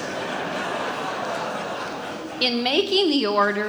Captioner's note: audience laughs